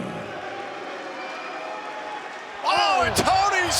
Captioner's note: audience cheers